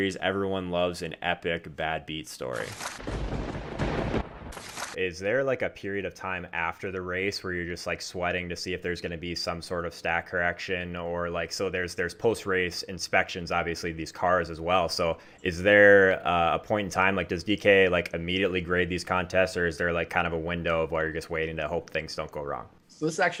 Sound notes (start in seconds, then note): 3.0 thunder cracks